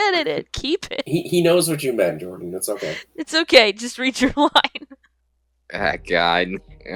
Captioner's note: chuckles